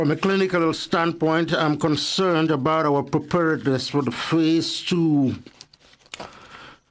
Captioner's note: speaking French